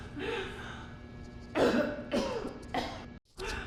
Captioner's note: choking